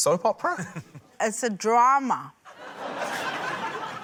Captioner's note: laughter